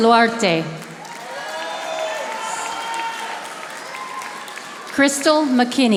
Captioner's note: audience applauding